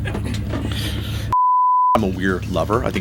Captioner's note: screen beeps